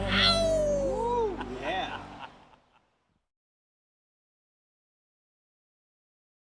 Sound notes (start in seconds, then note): 3.2 cowboy 2 laughs